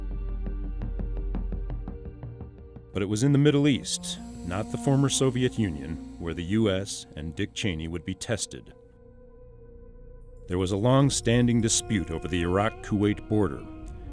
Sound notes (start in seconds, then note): 0.3 dramatic music; 2.8 voiceover